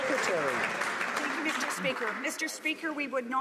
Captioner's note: some Applause